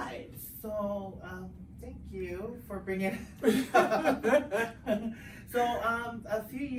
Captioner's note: laughs